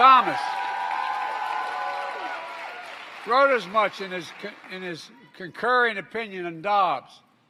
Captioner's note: applause